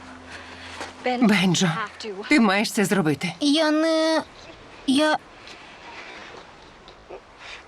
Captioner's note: stuttering